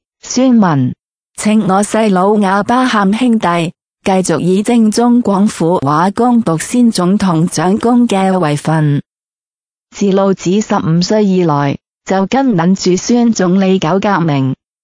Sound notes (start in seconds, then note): 4.4 ภาษา กวางตุ้ง; 7.8 Cantonese